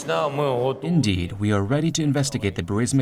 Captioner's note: through translator